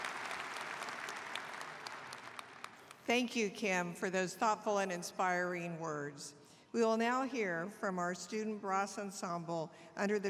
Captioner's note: applause